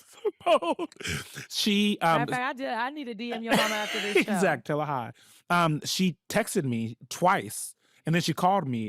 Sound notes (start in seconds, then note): 0.0 laughing